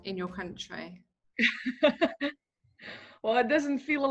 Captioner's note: laughing